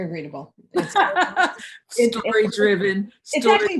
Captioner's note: laughs